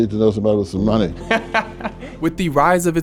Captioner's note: laughing